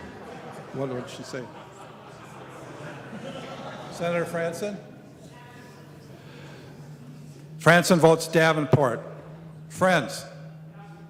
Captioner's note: laughing